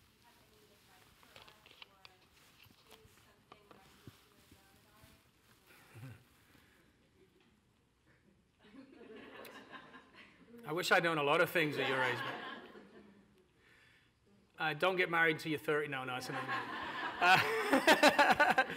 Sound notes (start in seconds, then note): 13.5 audience laughter